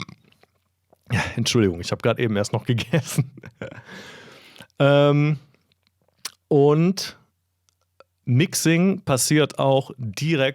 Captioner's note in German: gelächter